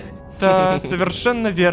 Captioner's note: laugh